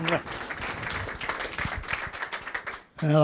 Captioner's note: applause